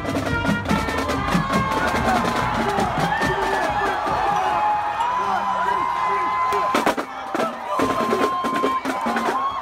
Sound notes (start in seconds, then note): 0.6 cheering